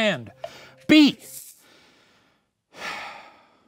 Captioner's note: sighs